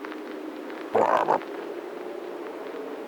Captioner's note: genuine frog croak